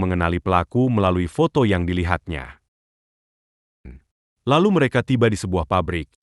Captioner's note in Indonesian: berdehem